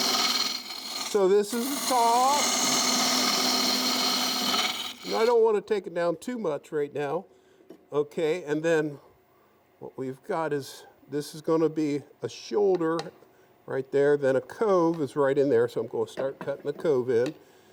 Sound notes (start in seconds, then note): 3.0 wood rasping